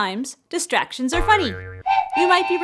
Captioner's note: spring bouncing; train tooting